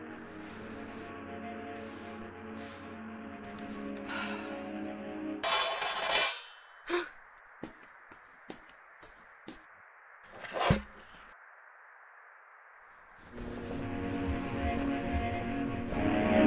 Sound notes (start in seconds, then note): 3.9 sighs; 5.4 clattering; 6.8 gasp